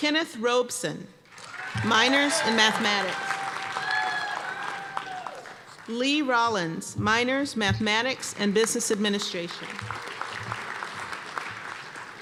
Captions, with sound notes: Kenneth Robson, minors in Mathematics. (applause and cheers) Lee Rollins, minors Mathematics and Business Administration. (applause)